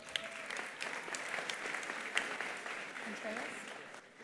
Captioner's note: attendees applauding